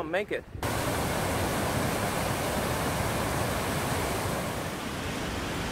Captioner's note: river sound